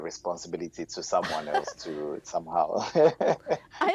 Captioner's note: chuckles